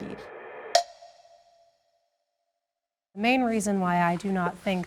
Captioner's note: clock ticks